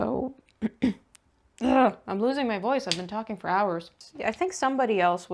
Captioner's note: clears throat, makes gremliny noises